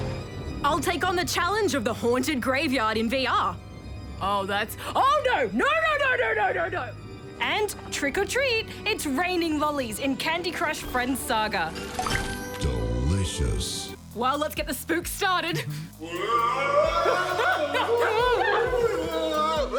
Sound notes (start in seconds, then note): 16.0 wails